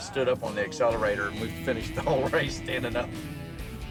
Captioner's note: none